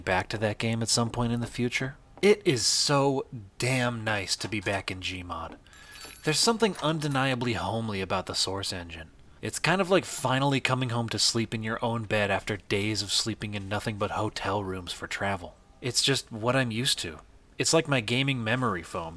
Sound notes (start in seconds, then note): 5.7 bell jingles